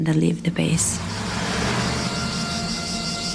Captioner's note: insects chirring